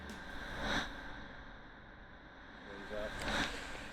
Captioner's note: recorder crackling